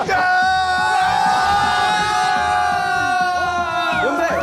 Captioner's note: Mereka ikut bersorak!